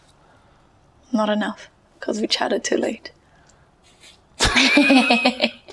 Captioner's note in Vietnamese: cười